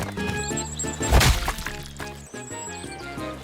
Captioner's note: splat!